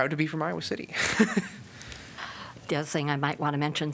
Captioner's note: laughter